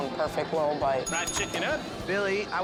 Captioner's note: bell dings